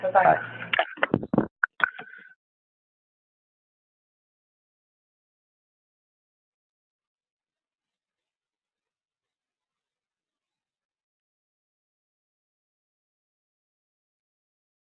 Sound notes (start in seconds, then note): 4.3 silence